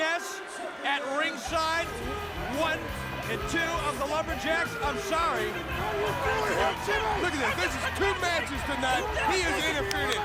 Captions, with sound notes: NESS AT RINGSIDE, ONE AND TWO OF THE LUMBERJACKS, I'M SORRY. >> [CROWD CHATTERS] >> LOOK AT THIS. THIS IS TWO MATCHES TONIGHT. HE IS INTERFERING.